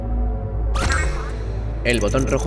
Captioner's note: console beeps; console chirping